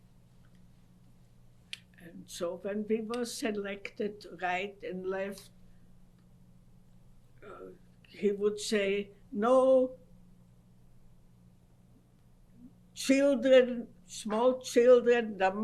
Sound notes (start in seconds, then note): 10.3 pauses for 3 seconds